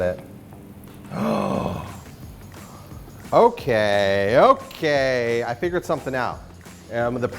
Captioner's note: gasps